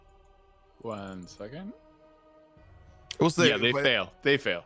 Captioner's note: mouse clicking